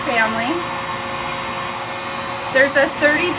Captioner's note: hair dryer whirs continues